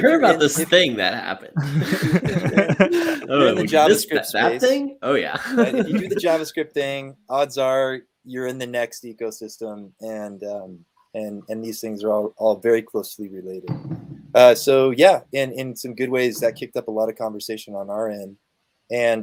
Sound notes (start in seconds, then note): 1.5 all laughing